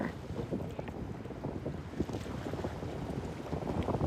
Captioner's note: wind blowing